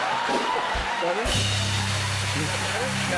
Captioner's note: laughter; cheers and applause